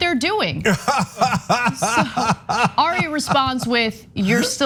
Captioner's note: laugh